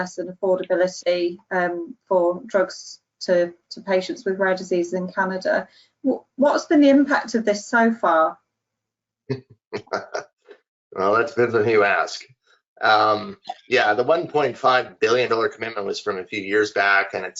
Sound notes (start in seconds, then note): 9.7 laughing